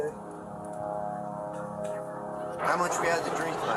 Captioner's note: whispering